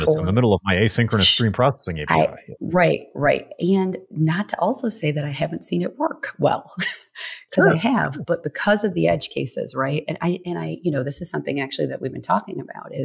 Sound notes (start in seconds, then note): 7.5 laughs